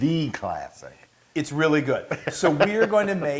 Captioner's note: laugh